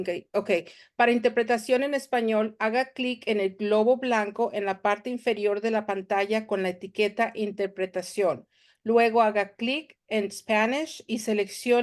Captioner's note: Spanish